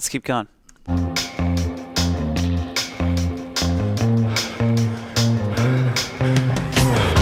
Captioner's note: upbeat rock jazz music; breathing heavily